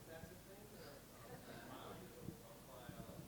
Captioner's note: audience laughs